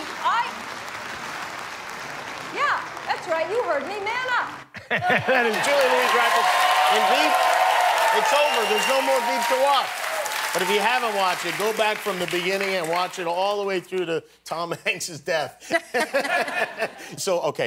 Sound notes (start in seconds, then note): 0.0 applause; 6.3 applause and cheering